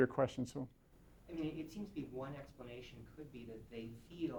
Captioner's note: voiceover